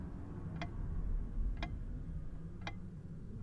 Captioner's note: clock ticks